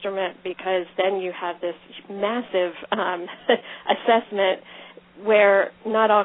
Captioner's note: laughs